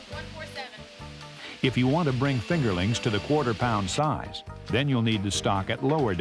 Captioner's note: voiceover